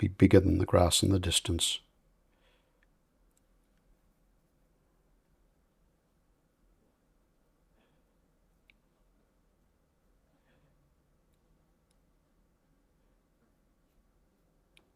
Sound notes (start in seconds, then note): 1.8 silence